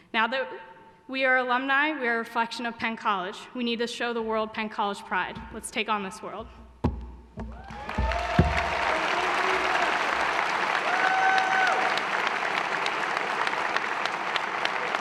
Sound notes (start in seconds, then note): 7.6 applause